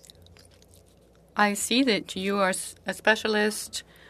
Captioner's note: speaking French